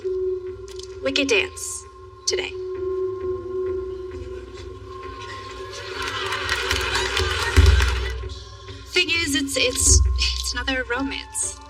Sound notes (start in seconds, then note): 3.0 mysteriouous music; 5.0 people clapapping